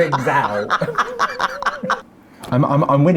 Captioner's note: laughs